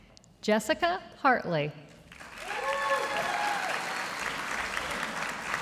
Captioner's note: audience applauding